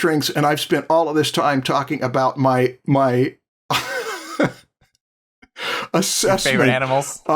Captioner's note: laughs